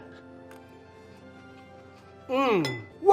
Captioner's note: chewing